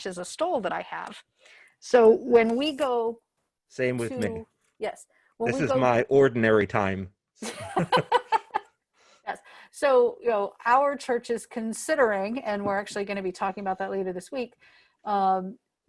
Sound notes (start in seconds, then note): 7.4 laughter